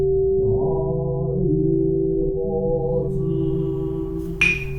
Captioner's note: voices reciting sutra; sound of oak wood being struck